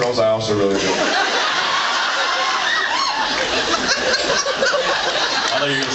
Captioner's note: laughs and cheers